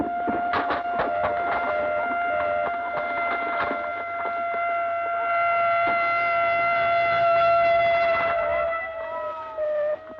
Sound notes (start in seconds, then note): 0.0 ambulance siren wailing; 0.7 alarm beeping